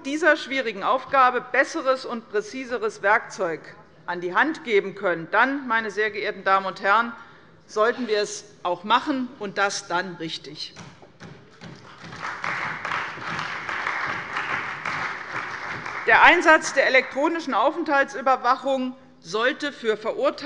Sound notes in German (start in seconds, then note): 11.7 Beifall bei der CDU und dem BÜNDNIS 90/DIE GRÜNEN